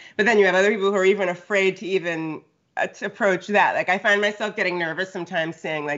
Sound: none

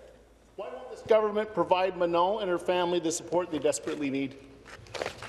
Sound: speaking in French

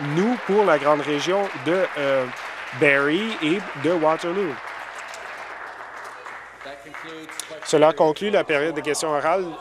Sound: applause

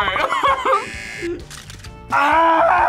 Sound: laughs; buzzer; screams

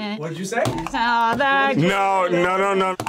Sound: buzzer rings

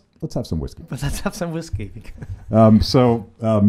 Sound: laughs

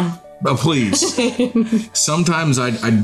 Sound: laughing

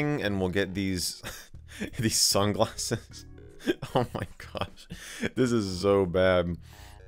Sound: snickers

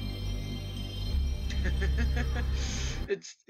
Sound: giggles

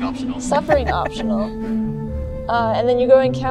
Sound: laughs

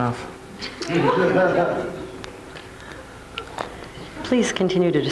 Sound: crowd laughs

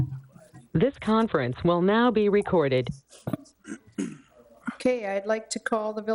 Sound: Electronic voice

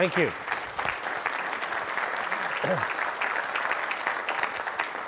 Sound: audience clapping

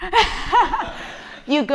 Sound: laughing

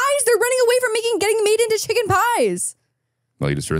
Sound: laughs

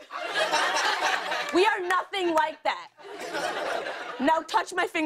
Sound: laughter; laughter

